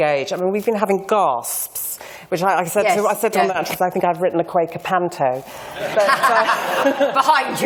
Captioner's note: laughter